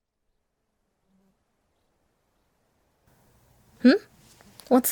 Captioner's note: birds chirping